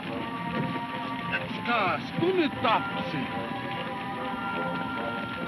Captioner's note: man speaks in foreign language